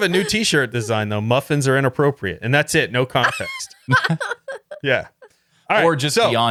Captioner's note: laughing; laughing